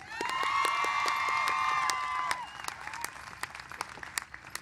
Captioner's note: cheers and applause